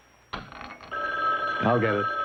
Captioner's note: phone ringing